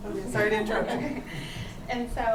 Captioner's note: laughs